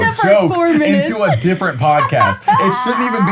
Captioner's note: laughs